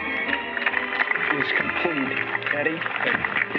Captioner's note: applause